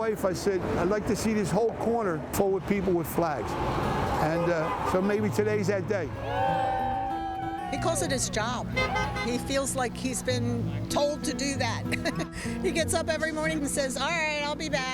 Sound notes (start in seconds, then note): 6.1 cheers